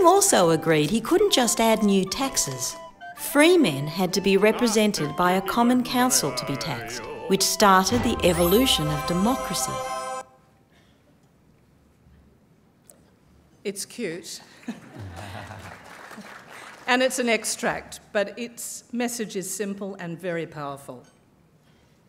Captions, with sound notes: The king also agreed he couldn't just add new taxes. Free men had to be represented by a common council to be taxed, which started the evolution of democracy. >> It's cute. (applause) And it's an extract, but its message is simple and very powerful.